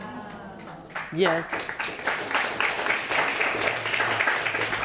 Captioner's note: audience applauding